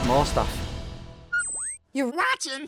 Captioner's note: whistle